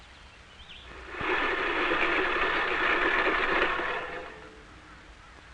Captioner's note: mower whirring